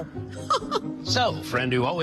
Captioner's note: laughs